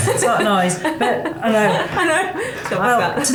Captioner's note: laughing